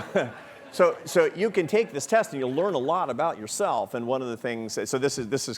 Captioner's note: laughing